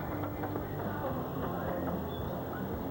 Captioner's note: none